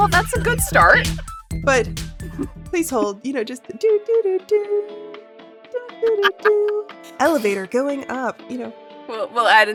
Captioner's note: hums